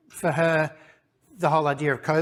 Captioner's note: none